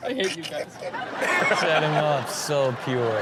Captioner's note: audience laughs